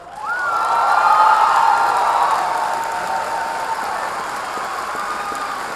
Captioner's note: audience cheering